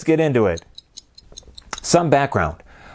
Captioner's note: clock ticking